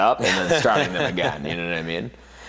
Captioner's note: laughs